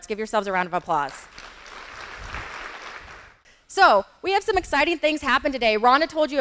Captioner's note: audience applauding